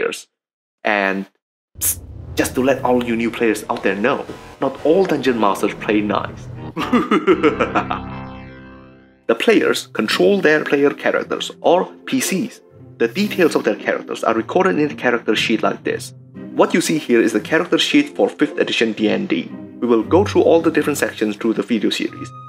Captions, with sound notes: And...psst! just to let all you new players out there know...not all dungeon masters play nice! [Evil laughter] The players control their player characters, or "PCs". The details of their characters are recorded in a character sheet like this. What you see here is a character sheet for 5th edition D&D. We will go through all the different sections through the video series.